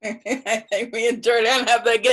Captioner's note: laughs